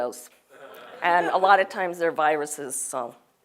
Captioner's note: laugh